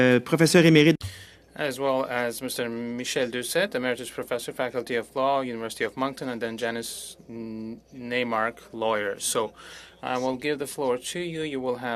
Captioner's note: speaking French